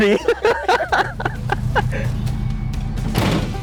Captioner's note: laughter